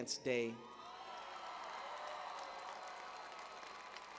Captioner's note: cheers and applause